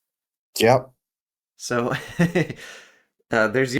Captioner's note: laugh